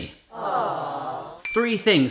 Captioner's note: awws